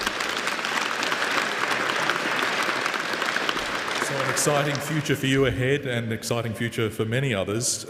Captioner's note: applause